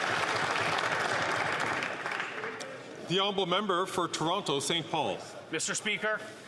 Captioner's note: some Applause